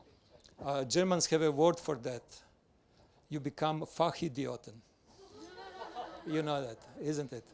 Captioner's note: everyone laughs